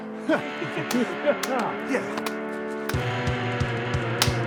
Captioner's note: energetic music; hands slapping; hands slap